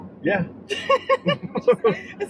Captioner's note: laughing